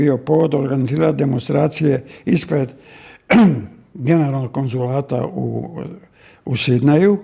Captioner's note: he coughs